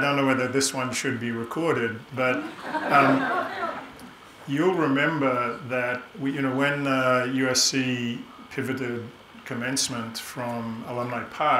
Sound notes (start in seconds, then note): 2.3 audience laughing